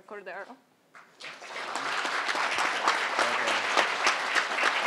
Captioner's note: crowd applauding